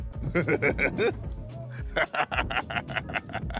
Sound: JJ laughing

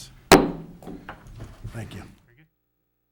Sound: gavel tapping

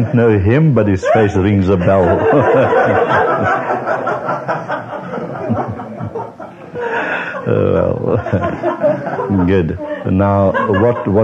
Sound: laughter

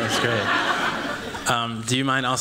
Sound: laughter

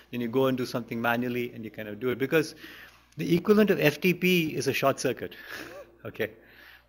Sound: laughs

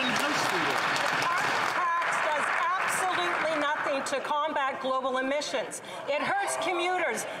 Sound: some Applause

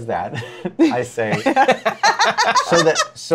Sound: laughter

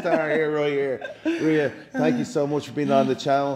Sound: laugh

